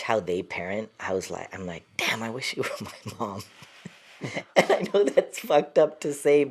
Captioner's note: laughter